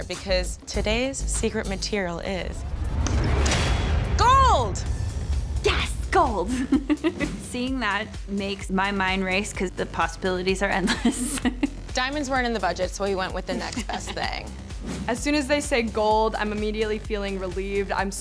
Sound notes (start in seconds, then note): 2.8 intense music builds; 6.5 laughs